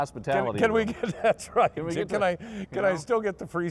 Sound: laughing

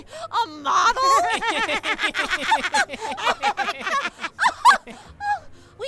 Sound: laughing

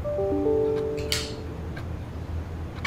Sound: laptop notification rings

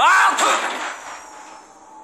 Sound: yells

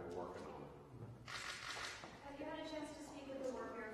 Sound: camera clicks

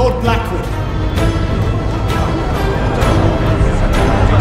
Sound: crowd chatter and disbelief

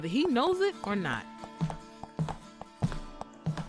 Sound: footsteps

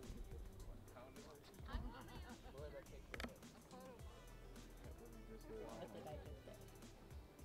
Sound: people talking

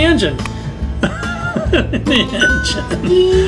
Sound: laughing

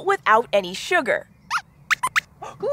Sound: squeaks squeaks

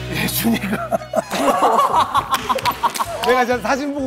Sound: bursts out in laughter

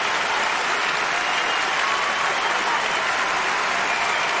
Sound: applause continutes

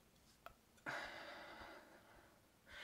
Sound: sigh

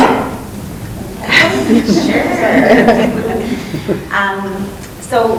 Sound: group laughing

